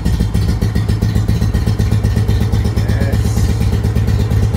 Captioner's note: engine picks up speed again; engine starts to smooth out